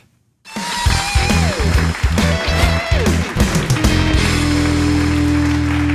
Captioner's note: audience applauding; lively blues-rock music